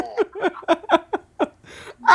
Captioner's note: laughing